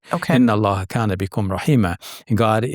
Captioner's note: quotes Quran in Arabic